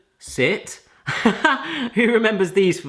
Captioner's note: laughing